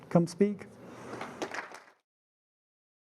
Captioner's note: applause